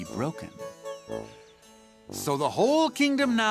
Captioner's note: birds chirping